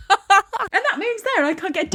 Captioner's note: laughing